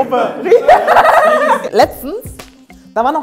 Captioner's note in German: Sie lacht laut